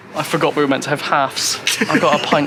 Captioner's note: laughs